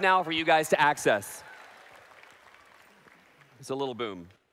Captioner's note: applause